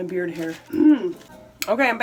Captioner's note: clears throat